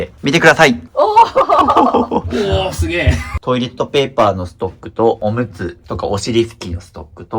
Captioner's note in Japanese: 笑い